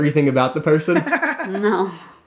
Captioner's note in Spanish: Risas